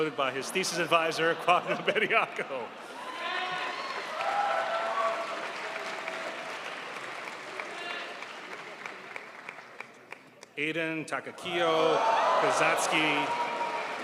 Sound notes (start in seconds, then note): 2.7 crowd applauds